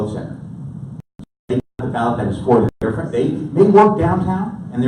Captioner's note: audio cutting out